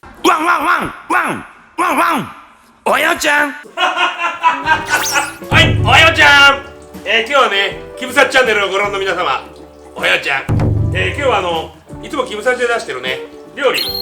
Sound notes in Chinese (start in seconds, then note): 3.6 笑声